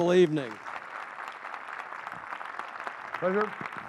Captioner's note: applause